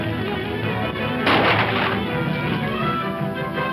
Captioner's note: gunshot